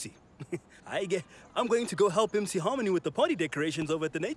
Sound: chuckles

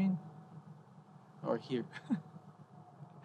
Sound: he chuckles

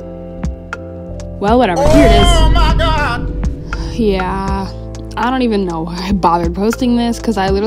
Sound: sound effects

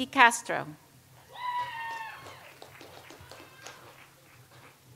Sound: audience applauds

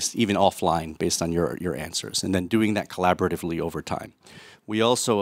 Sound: none

